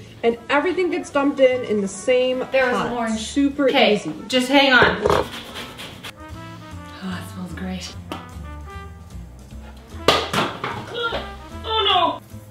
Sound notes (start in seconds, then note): 5.0 grating; 6.3 sniffing; 8.2 jazz music; 10.0 item dropping on the floor